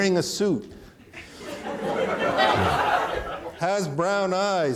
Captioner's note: audience laughing